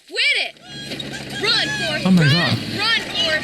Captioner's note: boys laughing